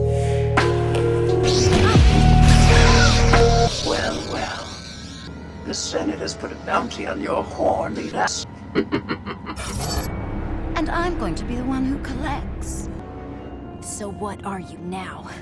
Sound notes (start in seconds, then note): 8.7 Ventress laughing